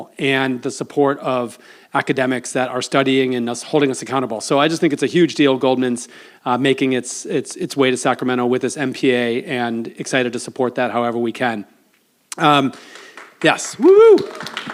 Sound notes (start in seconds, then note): 12.7 audience applauds